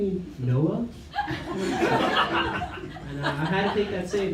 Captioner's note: laughter